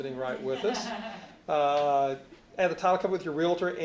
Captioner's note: laughing